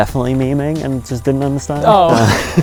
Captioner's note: laughs